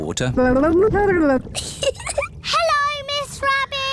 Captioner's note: gurgles; giggles